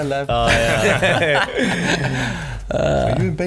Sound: laughing

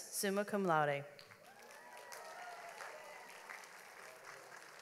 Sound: audience applauds

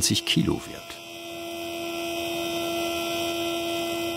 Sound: whirh

